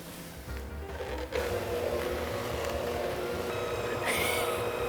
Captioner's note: mixer mixing